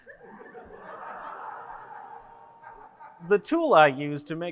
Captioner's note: audience laughs